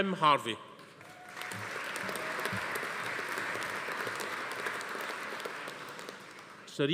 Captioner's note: audience applauding; attendee cheering